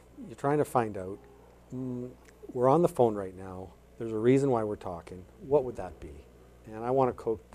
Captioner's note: mmm